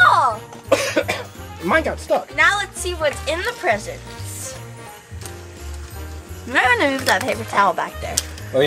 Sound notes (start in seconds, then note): 0.7 Mr. Engineer coughs